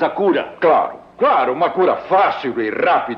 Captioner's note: none